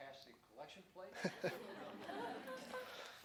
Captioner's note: laughter